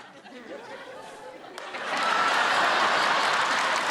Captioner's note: laughter